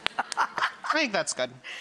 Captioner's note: laughing